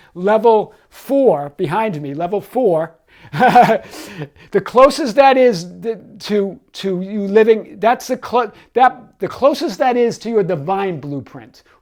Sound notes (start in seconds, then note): 3.3 laughs